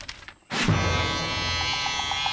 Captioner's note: cash register rings; buzzing